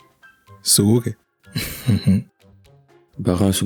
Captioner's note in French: rires